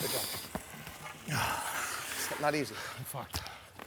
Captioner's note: inhales and exhales